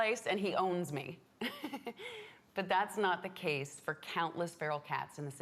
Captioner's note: laughs